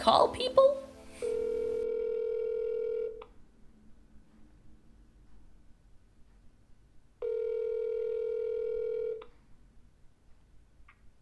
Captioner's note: phone rings